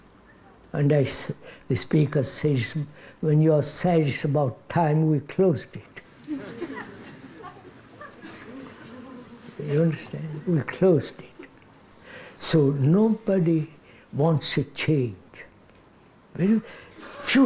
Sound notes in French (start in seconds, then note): 9.3 Rires